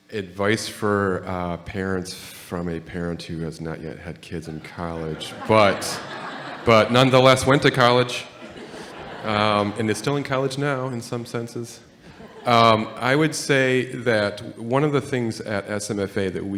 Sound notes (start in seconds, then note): 4.5 audience and panel laughing